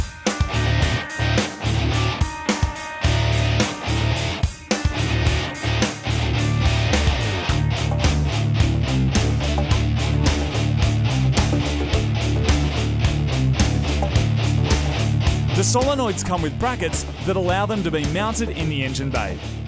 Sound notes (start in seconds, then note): 0.0 rock music; 15.5 voice over